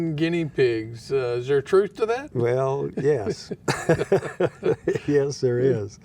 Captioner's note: laughing